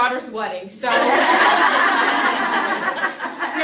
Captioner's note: laughter